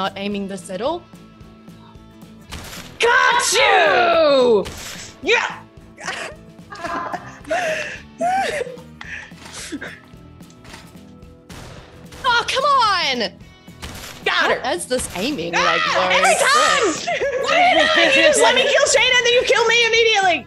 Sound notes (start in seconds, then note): 6.6 laugh